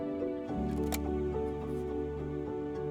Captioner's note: filter clicks into place